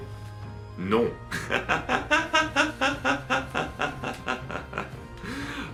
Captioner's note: laughs